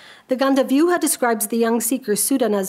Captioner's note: speaks a foreign language